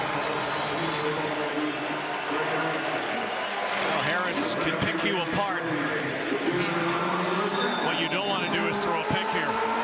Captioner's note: loud Crowd Noise